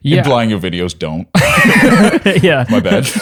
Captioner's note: laughter